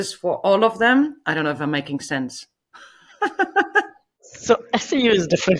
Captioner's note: laughs